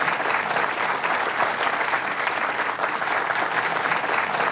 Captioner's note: clapping